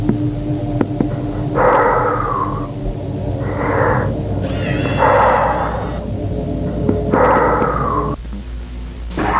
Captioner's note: heavy Breathing